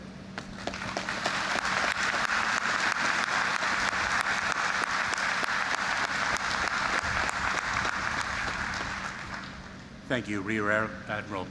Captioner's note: applause